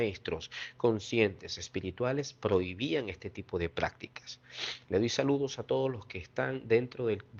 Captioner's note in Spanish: resoplido